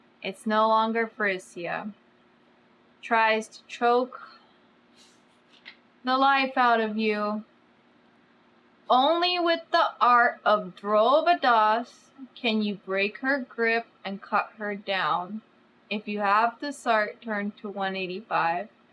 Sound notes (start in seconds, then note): none